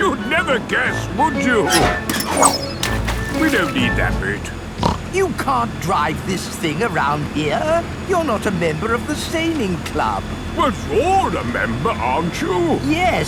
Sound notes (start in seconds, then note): 2.6 splashes; 4.7 snorts